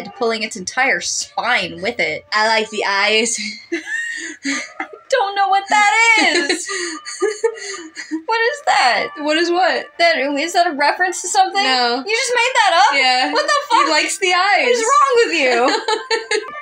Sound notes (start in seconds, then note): 2.2 disturbing Tone; 3.3 chuckle; 3.4 quiet Laugh; 7.5 laugh; 16.2 laugh